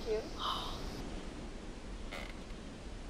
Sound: gasping

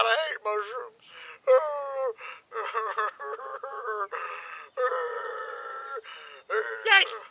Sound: sobbing

